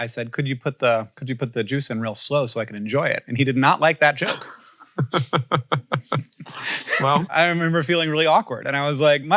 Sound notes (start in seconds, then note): 4.2 laughing